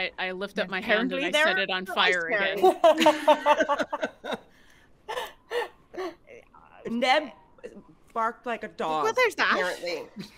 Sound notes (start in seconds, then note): 2.5 group laughs